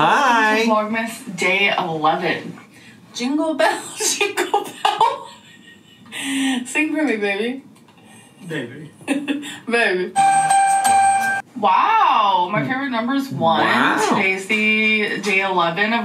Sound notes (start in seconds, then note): 5.0 laughs